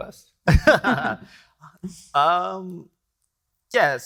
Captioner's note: chuckles; laughing